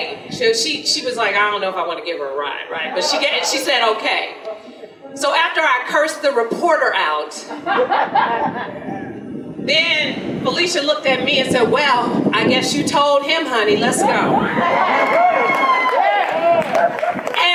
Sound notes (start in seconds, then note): 7.5 audience laughter; 14.6 audience applause